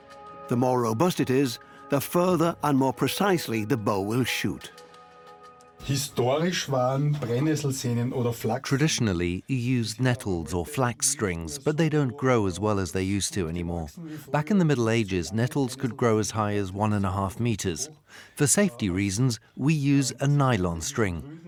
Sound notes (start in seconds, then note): 5.7 speaks German